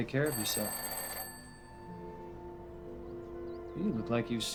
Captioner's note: phone ringing